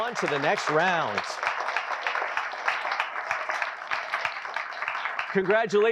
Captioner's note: applause